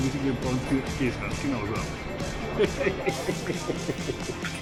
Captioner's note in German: Lachen